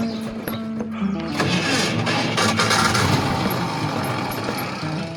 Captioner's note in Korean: 소련차 특유의 엔진음